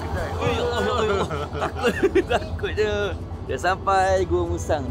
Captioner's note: laugh